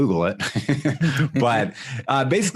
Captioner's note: laughing